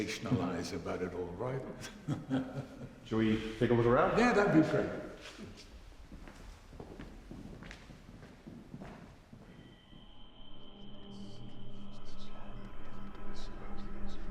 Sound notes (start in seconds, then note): 1.7 laughing; 9.6 ominous music; 11.1 whispering, ghostly voices